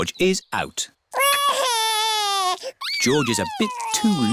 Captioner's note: crying